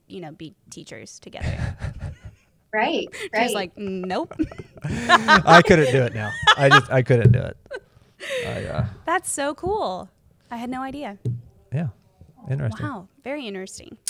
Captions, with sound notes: teachers together. -Right. -She was like, "No." [laughs] -[laughs] I couldn't do it now. I couldn't do it. -That's so cool. I had no idea. -Interesting. -Wow. Very interesting.